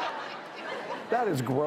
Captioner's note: laughing